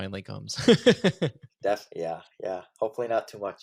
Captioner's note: laughs